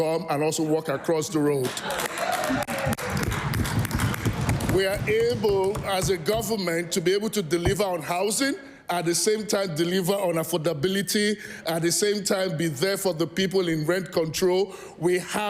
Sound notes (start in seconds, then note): 5.6 cheering/Applause